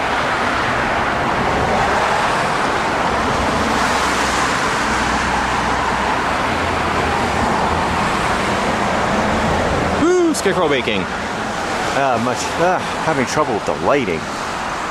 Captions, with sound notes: (Very Loud Traffic Noise) Whoa! Scarecrow making! Uh, much, ah, having trouble with the lighting.